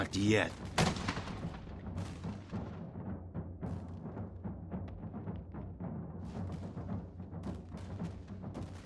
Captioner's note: gunshot